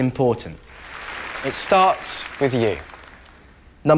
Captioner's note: applause